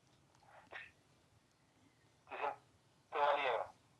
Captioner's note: broken up voice